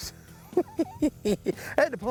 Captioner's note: chuckles